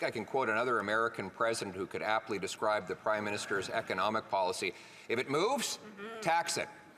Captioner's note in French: voix de l'interprète